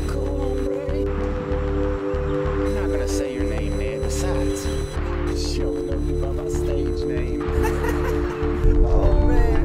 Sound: laughs

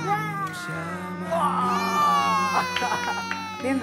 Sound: Bima and Adam exclaims

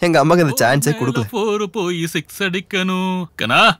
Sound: humming a song

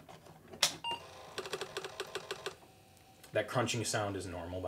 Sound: clicking

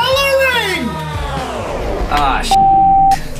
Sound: power dying sound

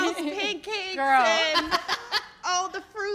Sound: laughs

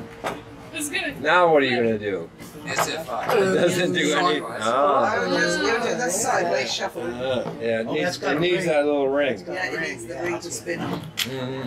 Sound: people talking

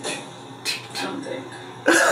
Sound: imitating snare drum

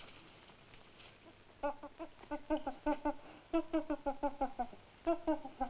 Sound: gorilla chittering

